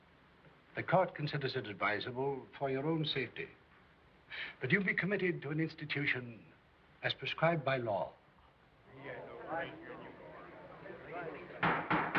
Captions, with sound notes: the court considers it advisable, for your own safety, that you be committed to an institution as prescribed by law. (PEOPLE CHATTERING) (GAVEL BANGING)